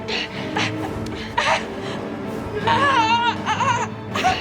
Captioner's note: struggling; dramatic music